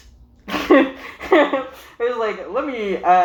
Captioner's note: chuckles